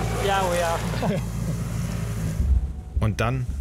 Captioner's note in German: Belustigte Laute